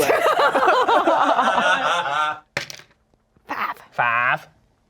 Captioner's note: everyone laughs